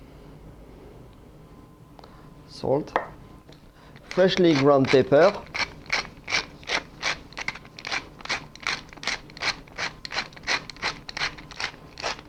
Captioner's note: grinding sounds